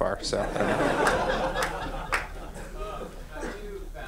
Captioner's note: laughing